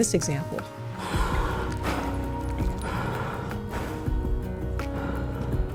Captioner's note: horse breathing heavy